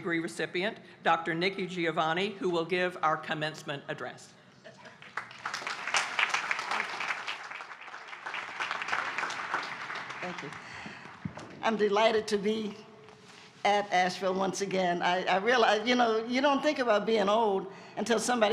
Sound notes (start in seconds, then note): 4.8 applause